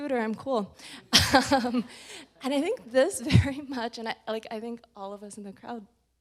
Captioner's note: chuckles